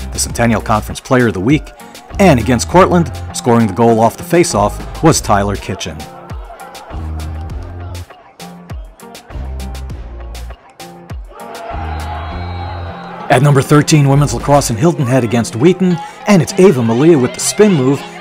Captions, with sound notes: the Centennial Conference player of the week, and against Cortland, scoring the goal off the faceoff, was Tyler Kitchen. (mid-tempo instrumental music) (crowd drones) (crowd cheers) At number 13, women's lacrosse in Hilton Head against Wheaton, and it's Ava Milia with the spin move